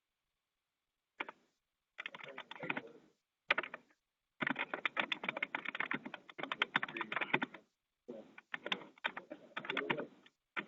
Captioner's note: typing